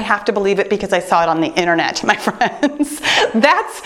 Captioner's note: laughs